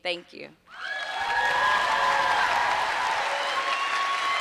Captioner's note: applause and cheers